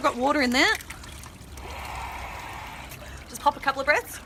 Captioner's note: air blowing